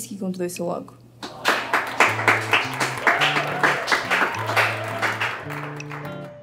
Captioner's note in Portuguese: aplausos entusiásticos